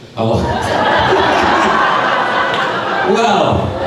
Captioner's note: crowd laughing